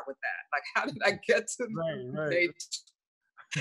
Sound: laughs; laughs

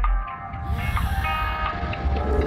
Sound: inhales deeply

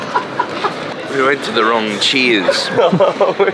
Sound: laughter; laughter

